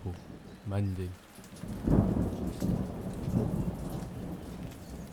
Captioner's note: thunder